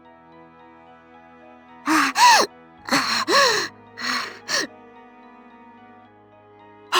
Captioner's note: panting